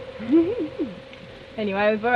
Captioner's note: laughs